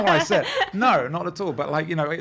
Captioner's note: laughing